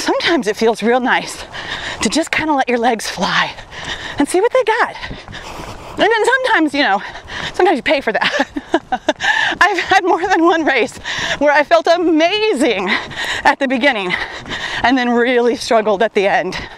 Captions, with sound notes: Sometimes, it feels real nice to just kind of let your legs fly. And see what they got. And then sometimes, you know, sometimes you pay for that. (laughs) I've had more than one race where I felt amazing at the beginning and then really struggled at the end.